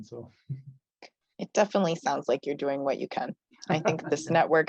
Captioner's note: laughs